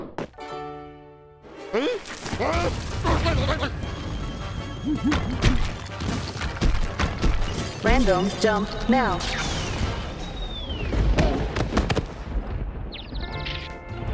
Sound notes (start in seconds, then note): 2.2 confused grumbles; 5.3 crumbling; 7.8 robot voice; 12.9 birds chirping